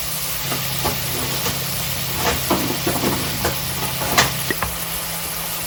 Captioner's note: rustling while taking out butter